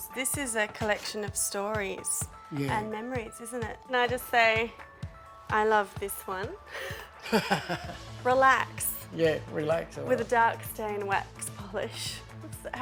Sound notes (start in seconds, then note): 6.8 man laughs